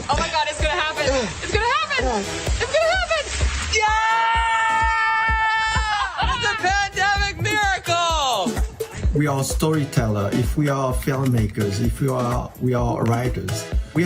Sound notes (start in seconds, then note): 1.2 grunts; 3.7 cheering